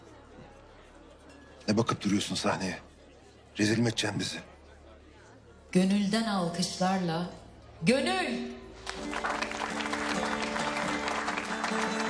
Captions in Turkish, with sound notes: Ne bakıp duruyorsun sahneye? Rezil mi edeceksin bizi? Gönülden alkışlarla... ...Gönül! [Alkış]